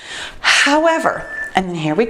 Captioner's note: timer beeps